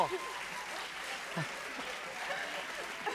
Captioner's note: laughter and applause